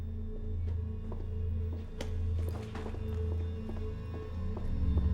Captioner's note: shoes clacking